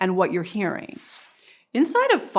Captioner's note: whooshing